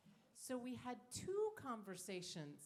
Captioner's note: none